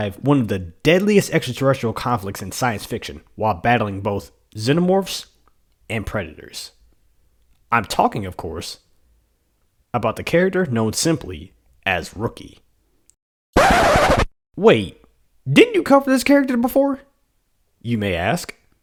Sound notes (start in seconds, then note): 13.5 record scratch